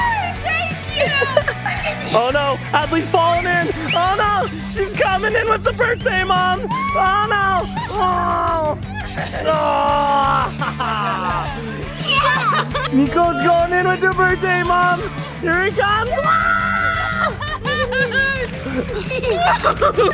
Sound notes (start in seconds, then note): 7.3 laughs; 11.5 family laughing; 16.7 laughing